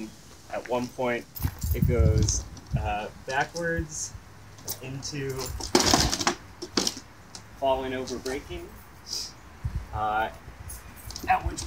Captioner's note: chair crashes